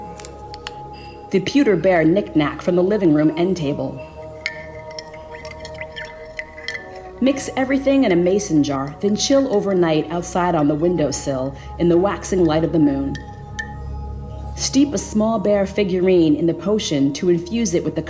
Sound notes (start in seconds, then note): 4.4 object clanking